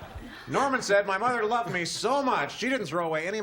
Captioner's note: laughter